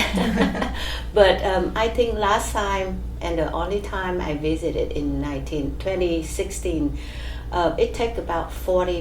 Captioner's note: all laugh